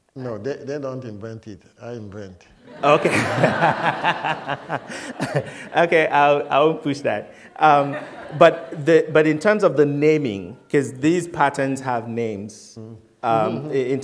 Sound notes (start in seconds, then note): 2.6 laughter